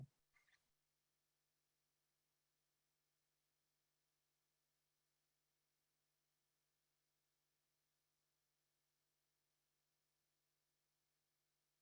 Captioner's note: silence